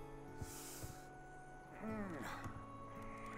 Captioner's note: gasps, groans